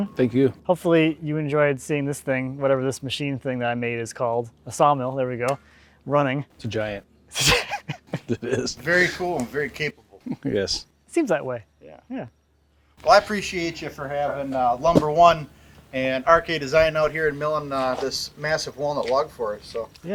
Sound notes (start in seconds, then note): 7.3 laughs